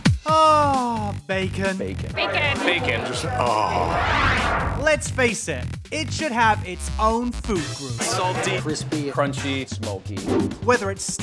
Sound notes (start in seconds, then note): 3.4 swoosh